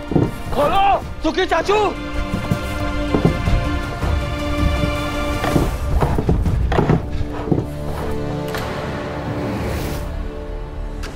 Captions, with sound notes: Untie me! Uncle Sukhi! [intense music plays] [chair rattles]